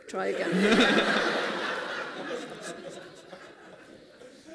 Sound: laughter

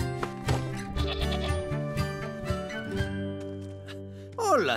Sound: bleating

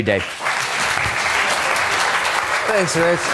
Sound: applause

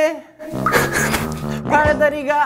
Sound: haha

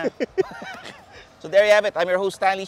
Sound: laughs

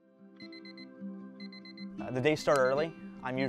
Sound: alarm beeps

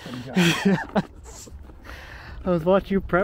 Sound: laughs

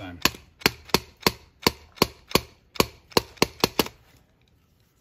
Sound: screwdriver thudding

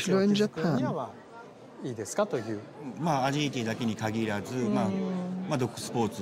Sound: speaking Japanese

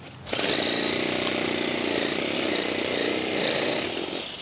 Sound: chainsaw buzzing

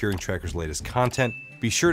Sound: bell dings

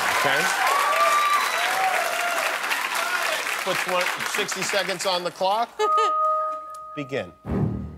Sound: cheers and applause

